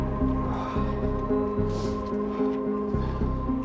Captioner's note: Brian sighs